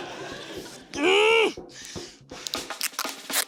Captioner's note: laughter; grunts, pants